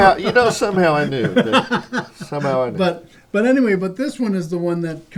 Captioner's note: laughter